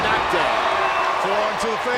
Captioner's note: crowd cheering